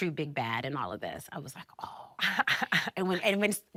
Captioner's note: laughing